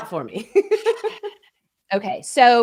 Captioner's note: chuckling